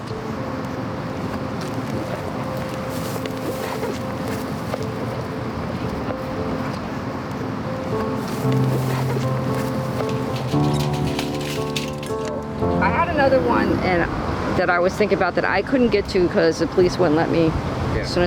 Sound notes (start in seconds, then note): 0.1 gentle music; 0.1 traffic droning; 7.8 grass rustling; 8.5 gear rattling